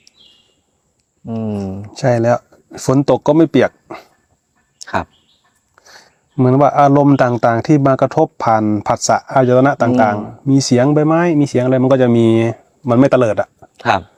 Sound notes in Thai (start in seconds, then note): 5.8 เสียงสูดหายใจ